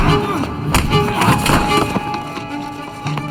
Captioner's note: thuds